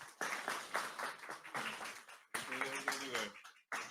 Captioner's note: audience applauds